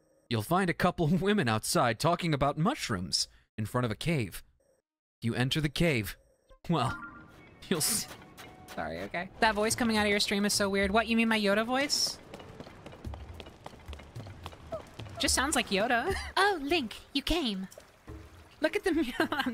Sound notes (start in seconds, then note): 0.2 IGN Guide Voice; 18.8 laughing